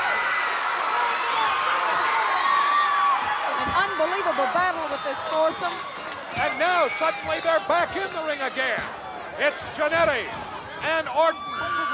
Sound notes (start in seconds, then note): 0.0 audience cheering; 4.7 bell ringing